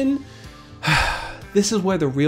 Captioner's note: sighs